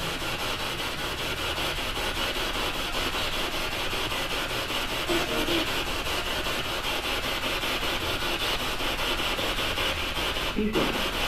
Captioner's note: radio noise from the spirit box